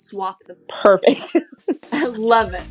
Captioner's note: laughs